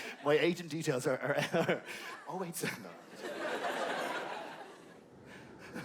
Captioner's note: laughte